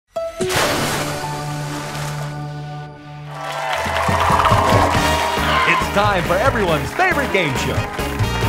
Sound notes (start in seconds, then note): 0.4 splash; 3.2 audience cheering